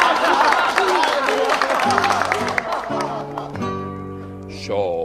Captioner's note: cheering; applause